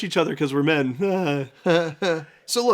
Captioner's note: awkward chuckles